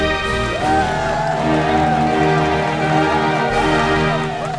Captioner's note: cheering